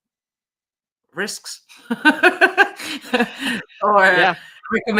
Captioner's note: laughs